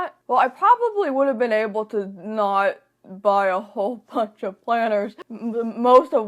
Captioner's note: laughs